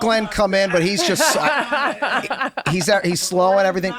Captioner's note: laughing